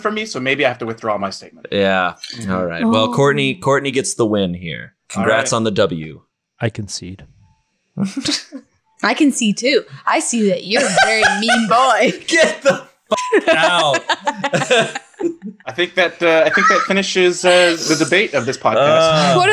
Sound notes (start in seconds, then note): 8.0 laughs; 13.1 beep; 13.1 laughs